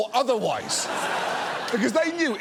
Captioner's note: audience laughs